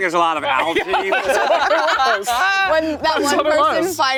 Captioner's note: everyone laughing